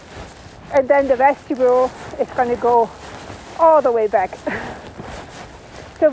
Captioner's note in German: lacht